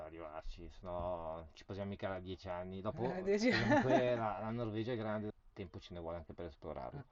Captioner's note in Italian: risate